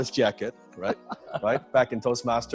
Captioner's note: laughs